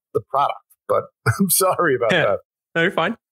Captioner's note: laughs